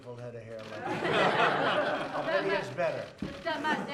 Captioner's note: laughter